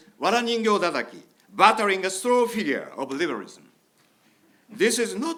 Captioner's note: speaking in foreign language